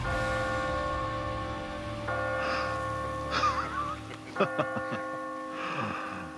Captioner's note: mission bell tolls; chuckling